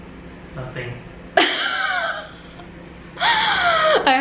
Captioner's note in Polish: Śmiech